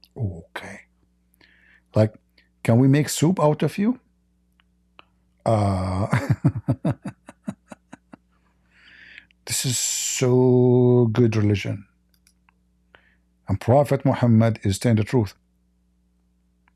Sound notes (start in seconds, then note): 7.6 Ketawa